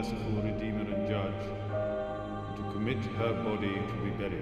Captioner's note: bell tolls